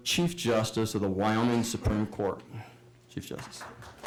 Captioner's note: applause